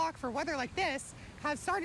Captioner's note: nat waves